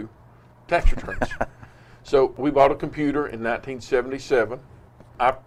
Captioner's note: laughs